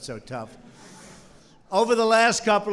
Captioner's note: laughter